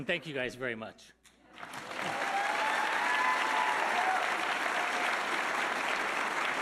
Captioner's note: audience cheering and applauding